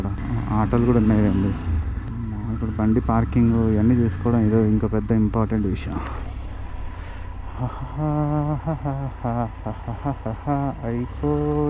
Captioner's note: humming